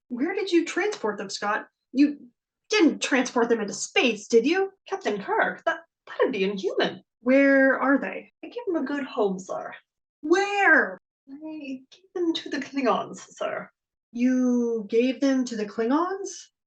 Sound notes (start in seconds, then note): 10.6 shouting; 14.5 a whisper